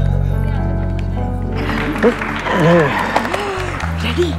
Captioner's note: Everybody clapping